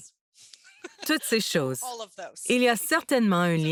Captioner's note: rires